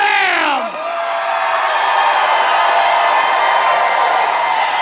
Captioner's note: applause